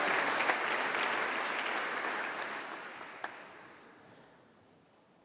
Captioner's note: applause